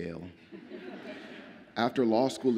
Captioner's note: audience laughs